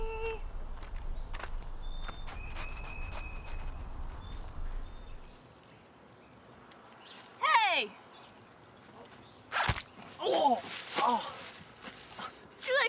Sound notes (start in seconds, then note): 5.5 urine hitting the ground; 9.5 zipper squish